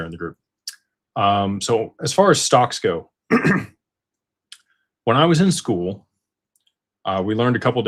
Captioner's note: clears throat